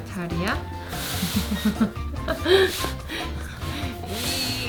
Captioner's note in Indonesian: tertawa